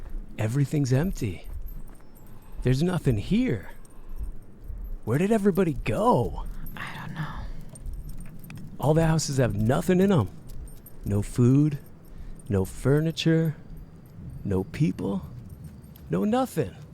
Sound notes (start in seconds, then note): 5.8 dog tags jingling; 7.2 whispers